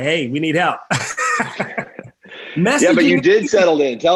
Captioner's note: laughing